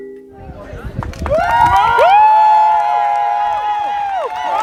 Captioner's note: cheering